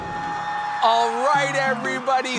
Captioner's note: people cheering